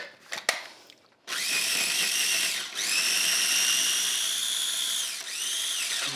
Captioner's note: food processor whirring